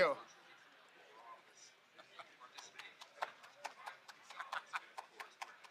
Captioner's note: attendees chattering faintly